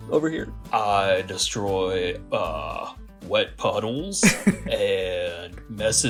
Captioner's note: laughter